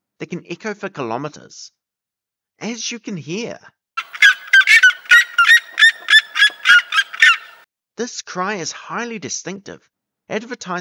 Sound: playing seriema call

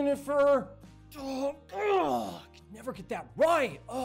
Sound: grunts

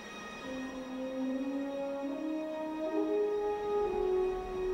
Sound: wind whispers

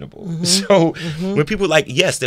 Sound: Jussie laughing amusingly

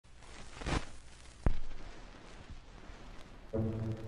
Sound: record player scratching

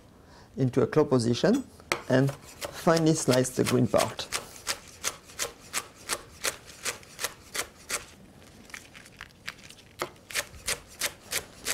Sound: cutting sounds

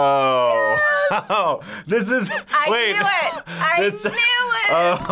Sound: laughs

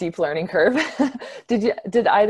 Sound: laughs

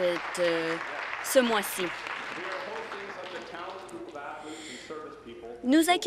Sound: applause

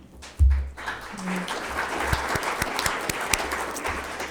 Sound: all applauding

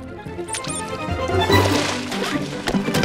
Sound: duck squeaking

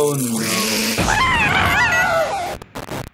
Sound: screaming

